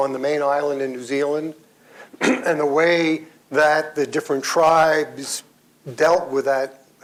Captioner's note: clears throat